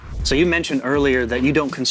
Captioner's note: air whooshing